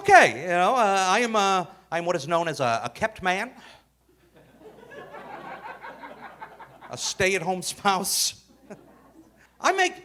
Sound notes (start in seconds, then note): 4.2 audience laughing